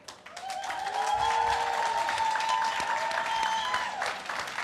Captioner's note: audience cheers and claps